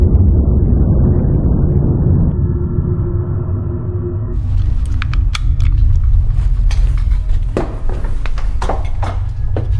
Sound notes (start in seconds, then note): 5.5 seatbelt clicking